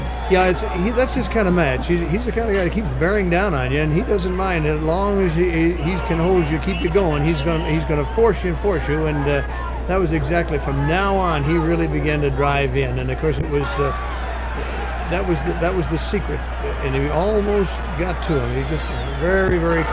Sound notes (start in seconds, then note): 4.0 people chattering distantly; 13.9 audience cheering